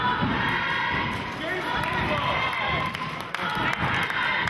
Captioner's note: chanting